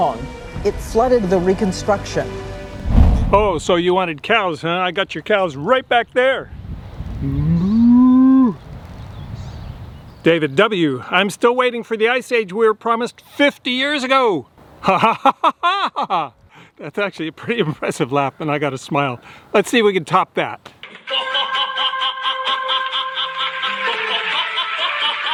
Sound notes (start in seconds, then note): 7.3 cow moos; 16.0 laughs; 21.2 contestant laughs rhythmically